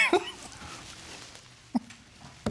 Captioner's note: chuckles